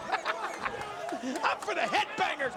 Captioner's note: King laughs